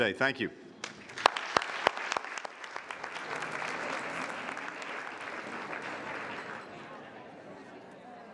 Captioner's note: applause